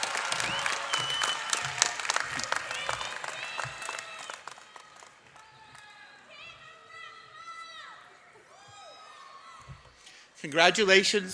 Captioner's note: cheers and applause